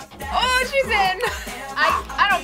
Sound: laughs

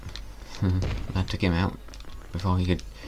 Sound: snigger

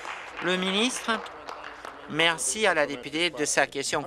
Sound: applause

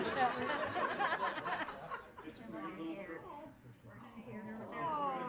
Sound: everyone laughing loudly

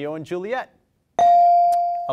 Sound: bell rings

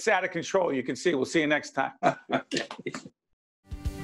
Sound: laughing

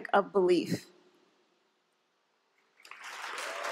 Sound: applause

